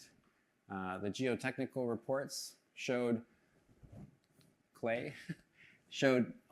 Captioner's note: chuckles